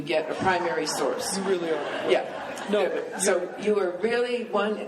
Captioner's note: laughing